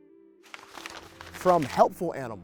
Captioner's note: paper crumpling